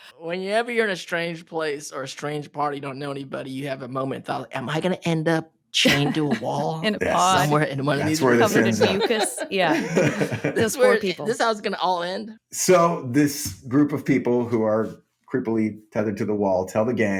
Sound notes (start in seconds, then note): 7.9 laughing